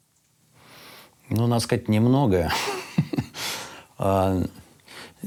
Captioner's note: laughs